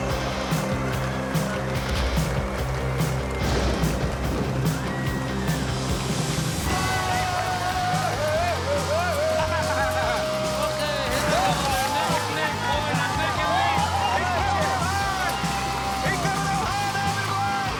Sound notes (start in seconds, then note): 6.8 yells; 9.2 laughs; 14.4 cheering